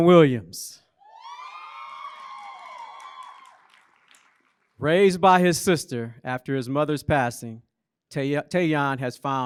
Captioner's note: applause